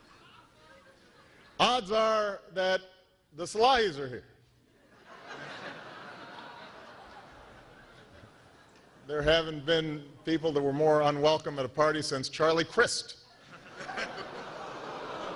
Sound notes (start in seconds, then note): 9.1 laughter